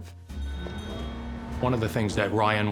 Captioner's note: bell chimes